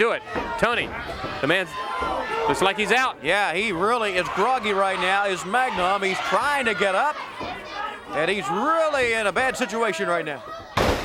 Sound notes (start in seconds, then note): 0.0 crowd cheering; 3.5 crowd cheering